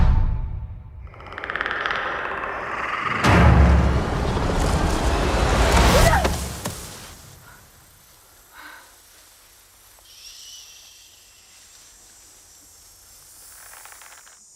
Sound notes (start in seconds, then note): 1.1 Predator clicking; 5.7 Naru yells; 9.8 shushing